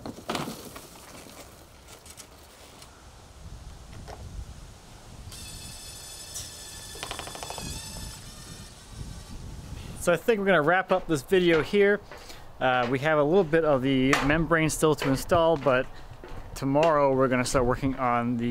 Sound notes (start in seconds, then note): 5.3 machine drilling